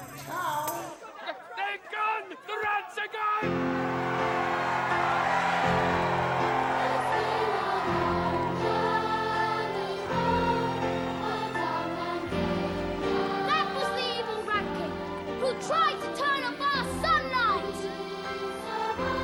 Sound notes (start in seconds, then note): 4.4 cheering